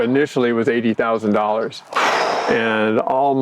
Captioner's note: breath whooshes